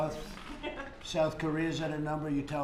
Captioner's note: laughs